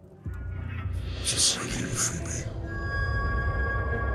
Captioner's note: demonic voice